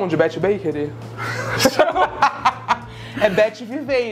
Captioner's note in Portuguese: risos